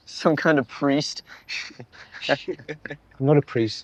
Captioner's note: both chuckle